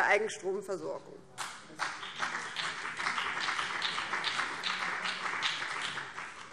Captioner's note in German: Beifall BÜNDNIS 90/DIE GRÜNEN